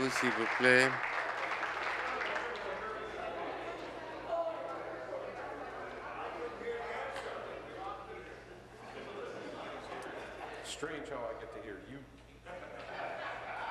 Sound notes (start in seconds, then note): 1.7 applause